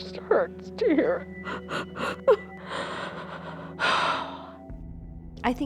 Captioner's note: sobbing